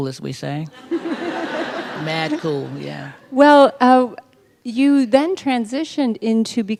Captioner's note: laughter